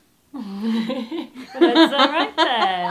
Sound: laughing

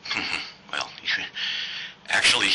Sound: laughs

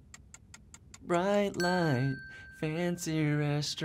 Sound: timer ticking; bell rings

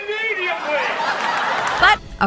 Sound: audience laughing

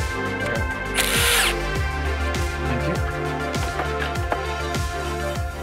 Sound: drill whirring

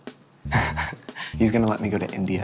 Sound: laughs

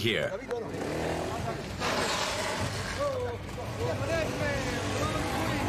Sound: motorcycle engine roaring

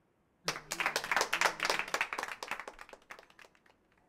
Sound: audience applauding

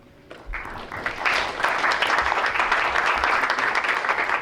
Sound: crowd applauds

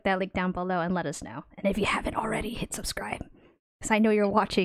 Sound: whispers

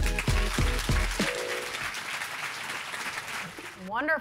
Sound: audience applauding

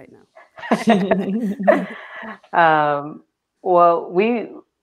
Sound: laughter

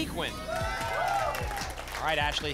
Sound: applause and cheering

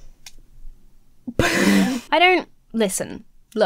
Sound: laughing

